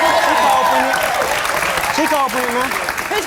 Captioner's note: audience cheering